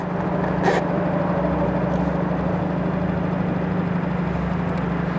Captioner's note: boat engine rumbling